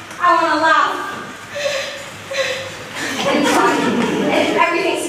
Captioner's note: terrifying laugh